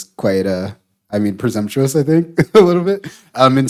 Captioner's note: laughing